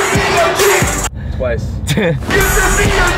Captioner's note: laughs awkwardly